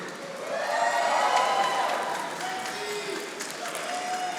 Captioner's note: audience applauding